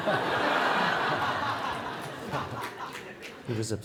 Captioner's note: laughter